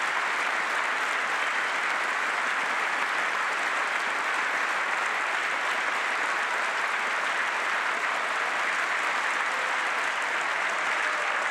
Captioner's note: applause